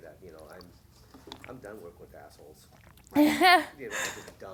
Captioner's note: laughing